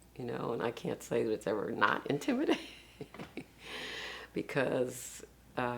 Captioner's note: laughs